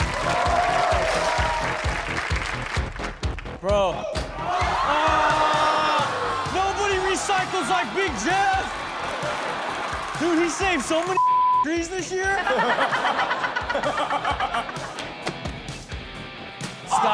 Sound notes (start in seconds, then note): 0.0 audience applauding; 4.3 audience exclaims; 11.1 beep; 12.2 all laughing; 15.3 electronic music